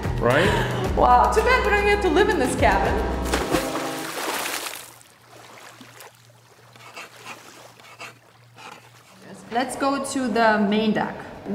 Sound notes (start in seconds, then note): 0.0 laughs; 3.2 water splashes; 3.6 boat horn blows